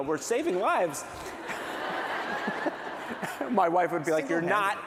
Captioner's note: laughter